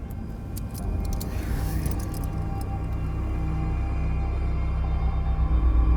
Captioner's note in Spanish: esposas sonando; música pensativa